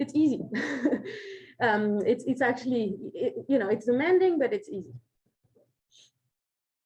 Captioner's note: chuckles